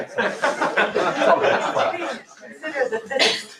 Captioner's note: laughter